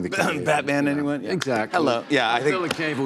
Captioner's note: coughing